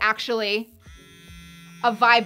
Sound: brush buzzing

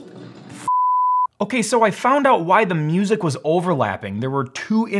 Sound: beep

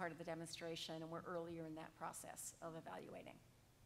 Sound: none

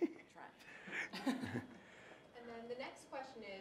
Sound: laughing

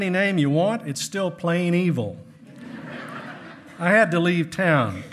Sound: hearty laughing

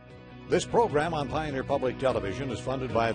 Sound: voiceover

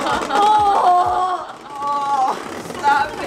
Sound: loud scraping; yelling

